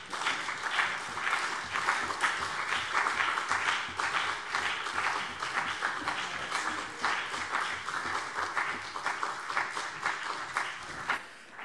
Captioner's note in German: Beifall CDU und BÜNDNIS 90/DIE GRÜNEN